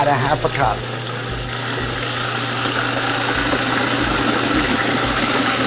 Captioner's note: food processor grinding